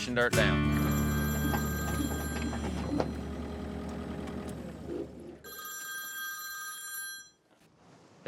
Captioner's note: phone ringing